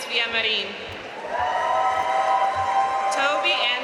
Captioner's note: audience cheering and applauding